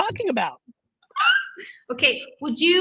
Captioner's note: laughing